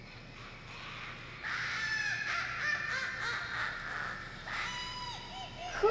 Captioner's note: witch laughing